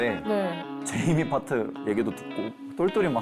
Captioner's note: choked-up tone